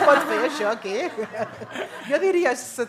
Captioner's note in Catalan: riures